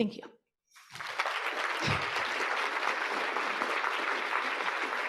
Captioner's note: audience applauding